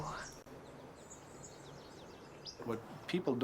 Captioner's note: birds chirping